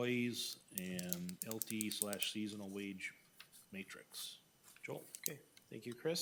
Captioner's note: pen clicking